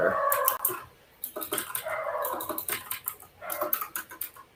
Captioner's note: keyboard clacks